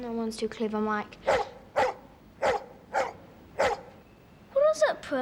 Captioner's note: dog barking